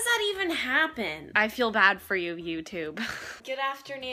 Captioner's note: chuckles